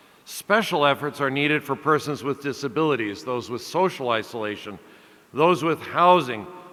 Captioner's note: none